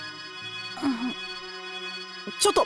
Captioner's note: hypno groan